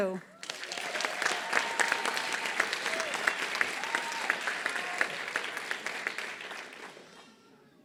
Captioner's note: applause